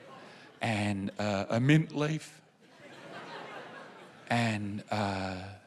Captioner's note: laughter